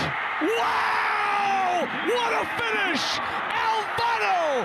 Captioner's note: fans cheer